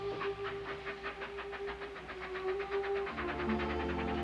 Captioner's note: car engine starting